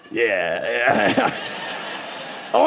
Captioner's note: audience laughing